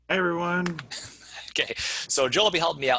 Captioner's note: laughing